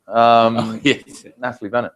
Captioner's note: laugh